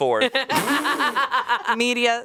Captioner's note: everyone laughs